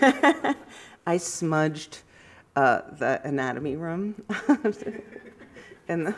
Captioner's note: laughs